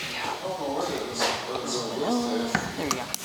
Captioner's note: chuckling; background talking